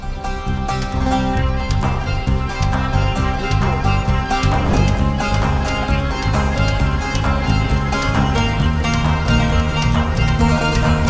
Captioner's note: applause